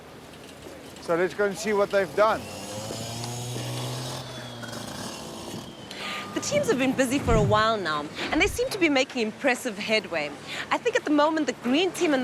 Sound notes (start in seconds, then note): 2.8 machine swirling sound